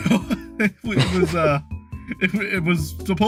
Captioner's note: chuckling